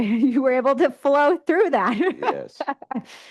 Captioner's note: laughs